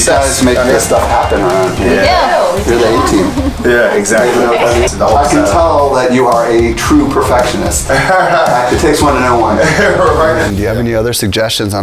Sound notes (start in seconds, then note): 7.8 laughs